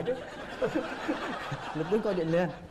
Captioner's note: laughing